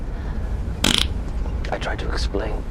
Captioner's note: fart